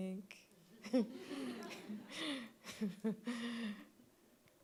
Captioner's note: audience laughing